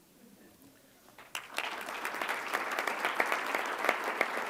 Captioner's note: applause